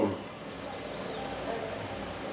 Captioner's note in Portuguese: pássaros cantando